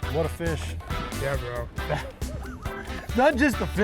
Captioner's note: laughs